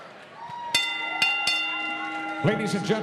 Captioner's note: bell rings